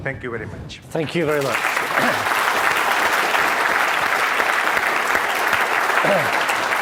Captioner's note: audience clapping